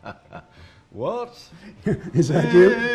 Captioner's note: laughter